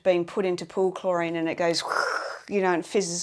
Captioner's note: gurgling